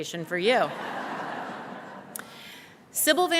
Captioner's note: laughter